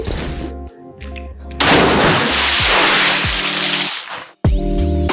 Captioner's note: water splashing; mellow music